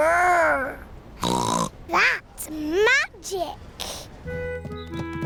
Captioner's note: snorts